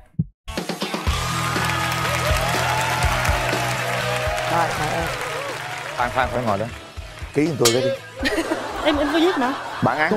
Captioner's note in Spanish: Aplaudir